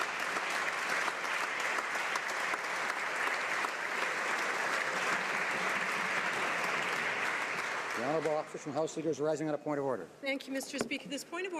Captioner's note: applause